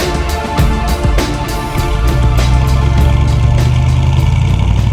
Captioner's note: music fades - engine sound